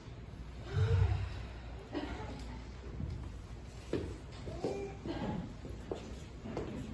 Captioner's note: inhale; exhale